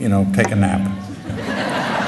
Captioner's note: laughter